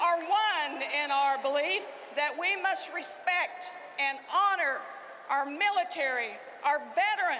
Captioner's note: cheering and applause